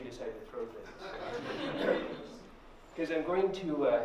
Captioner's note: laughter